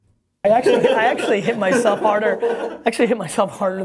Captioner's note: laughter